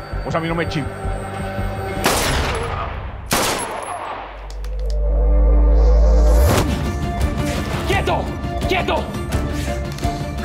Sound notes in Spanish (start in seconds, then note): 3.2 Disparos